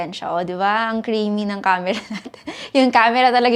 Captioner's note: laughs